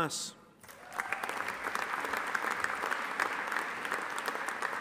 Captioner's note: audience applauding